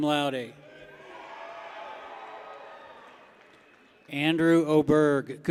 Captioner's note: people cheer